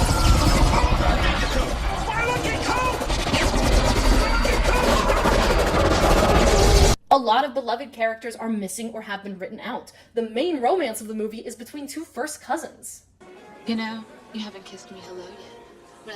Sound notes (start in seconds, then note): 4.8 dying noises